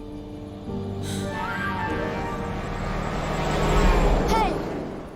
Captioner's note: horn honking